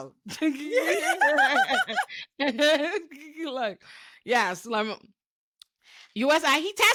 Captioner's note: laughing